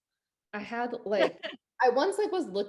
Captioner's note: laughs